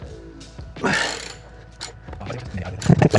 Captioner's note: sighing